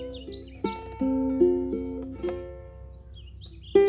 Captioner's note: birds tweeting